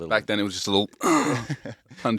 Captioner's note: grunts